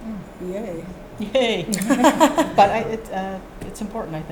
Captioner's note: laughing